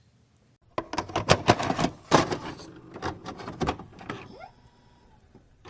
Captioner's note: VCR tape insertion noise